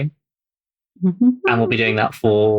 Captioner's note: laughs